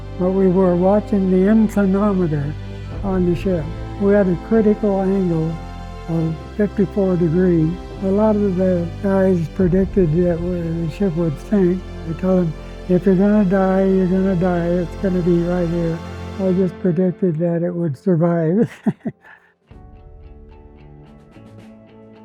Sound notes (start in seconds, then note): 18.5 laughs